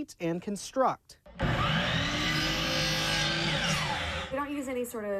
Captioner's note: saw grinds